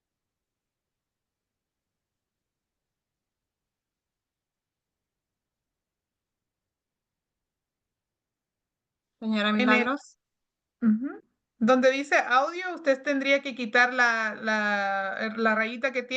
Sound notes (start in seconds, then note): 9.3 speaking Spanish